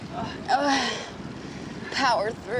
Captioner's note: she grunts